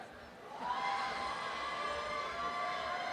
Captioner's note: applause and cheering